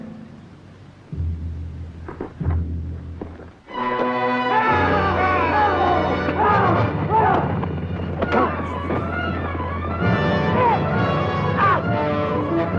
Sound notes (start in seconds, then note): 3.7 dramatic orchestral music; 4.4 Jeff and Greer yell